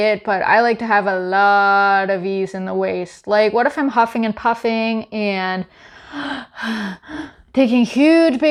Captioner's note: breathing sounds